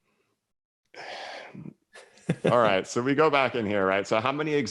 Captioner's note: sighs